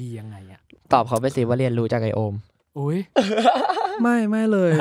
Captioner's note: laugh